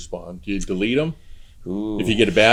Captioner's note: woo